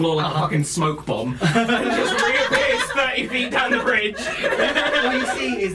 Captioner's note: laughter